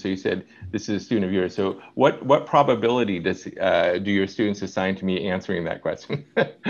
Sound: laughing

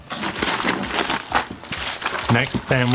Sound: paper tearing

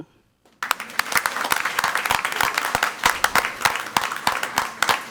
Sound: crowd clapping

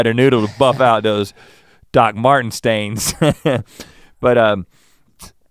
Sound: chuckles

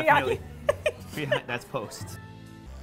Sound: laughs

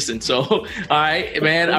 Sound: laughs

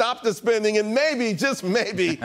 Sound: laughter

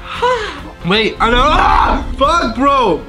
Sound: yells

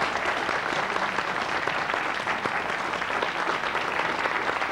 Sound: applause

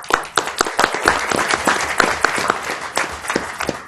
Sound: applause

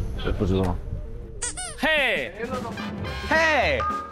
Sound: chuckling

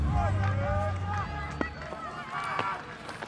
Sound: तालियाँ

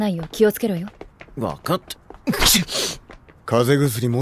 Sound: sneezes

